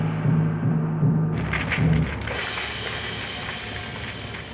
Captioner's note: gong chiming; flames crackling